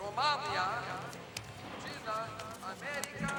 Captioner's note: announcer speaking spanish